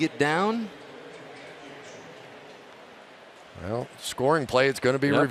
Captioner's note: pa announcement